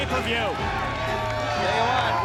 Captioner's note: crowd cheering